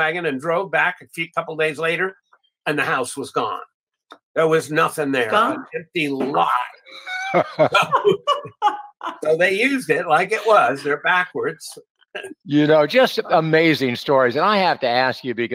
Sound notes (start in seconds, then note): 6.7 laughing